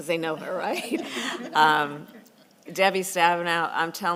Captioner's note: laughter